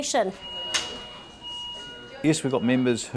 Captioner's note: hospital beeping